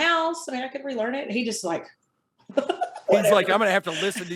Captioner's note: chuckles